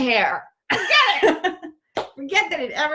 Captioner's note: laughter